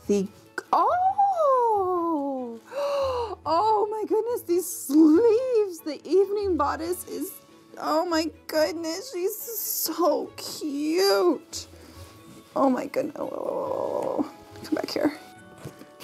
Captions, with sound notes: (gasps) Oh my goodness, these sleeves! The evening bodice, oh my goodness, she's so cute! Oh, oh, oh, oh, oh, oh, oh, come back here.